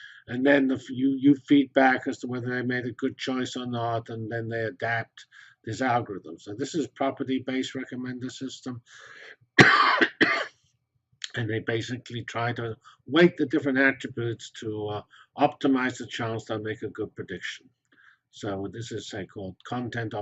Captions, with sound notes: And then, you feedback as to whether I made a good choice or not and then they adapt these algorithms. So this is property based recommender system [COUGH]. And they basically tried to weight the different attributes to optimize the chance they'll make a good prediction. So what this is say called content or